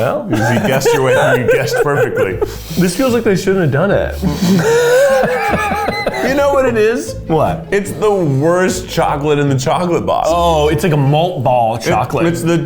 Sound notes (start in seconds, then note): 4.1 laughing